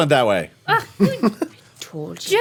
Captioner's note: laughs